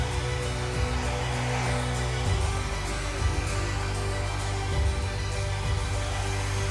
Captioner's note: machine whooshing